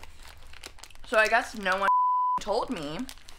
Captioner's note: beeping